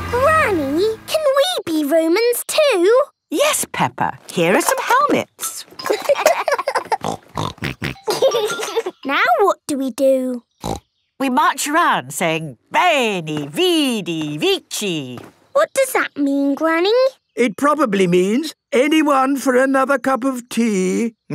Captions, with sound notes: - Granny, can we be Romans too? - Yes, Peppa! Here are some helmets. (laughing) (snorting) - Now what do we do? Snort! - We march around saying, 'veni, vidi, vici.' - What does that mean, Granny? - It probably means, 'anyone for another cup of tea?'